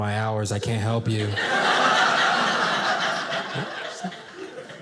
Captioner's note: audience laughing